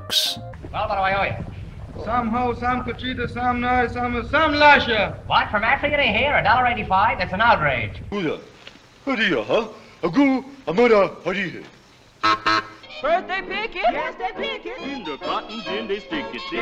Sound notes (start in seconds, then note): 0.0 some racist made up gibberish noises; 8.3 honk honk; 8.3 more racist gibberish noises